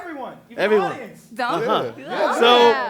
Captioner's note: chatter